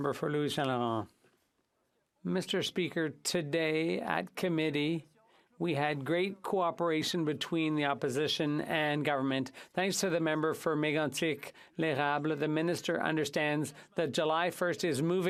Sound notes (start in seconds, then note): 1.7 speaking French